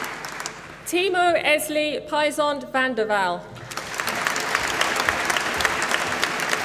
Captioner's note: applause